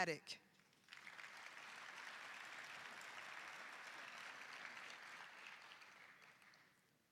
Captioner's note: applause